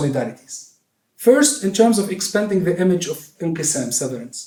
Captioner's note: non-english speech